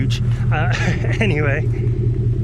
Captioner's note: chuckles